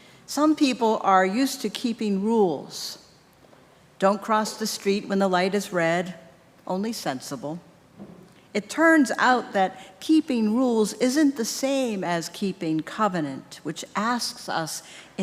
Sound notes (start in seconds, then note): none